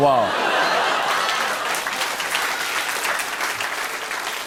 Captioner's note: laughter